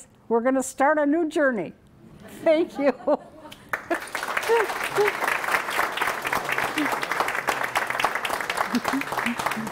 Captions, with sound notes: We're going to start a new journey! [laughter] Thank you. [applause]